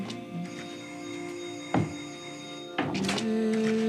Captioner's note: phone rings